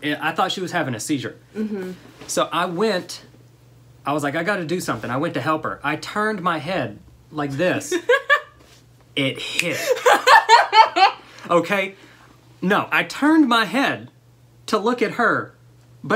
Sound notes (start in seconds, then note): 9.3 snaps; 9.8 laughter